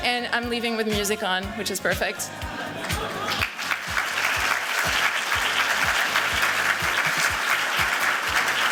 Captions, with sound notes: And I'm leaving with music on, which is perfect. [APPLAUSE]